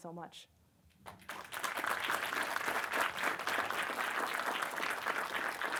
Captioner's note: attendees applauding